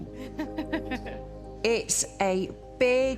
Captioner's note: laughs